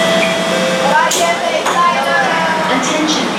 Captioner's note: station chime; platform screen doors & train doors unlocked